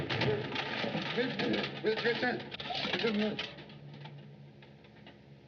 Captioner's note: mutters